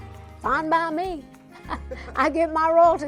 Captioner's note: chuckles